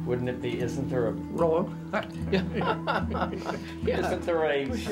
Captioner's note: laughter